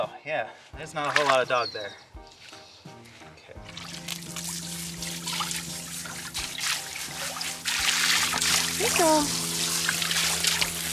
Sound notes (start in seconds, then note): 3.6 water splashing